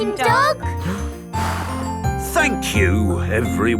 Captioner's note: blows